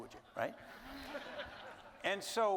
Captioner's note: audience laughing